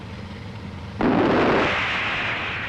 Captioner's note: missile firing